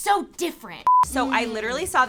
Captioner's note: beep